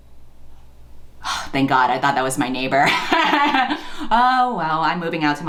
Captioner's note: sighs